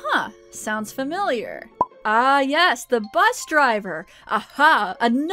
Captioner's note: pop